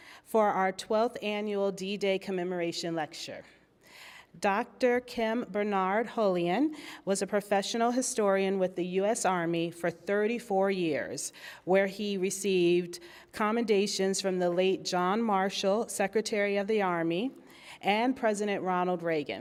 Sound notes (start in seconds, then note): none